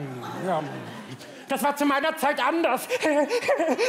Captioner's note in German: lacht